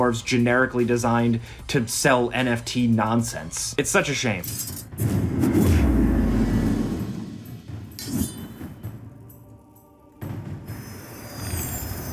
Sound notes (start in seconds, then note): 4.9 dramatic music; 8.0 swords clinking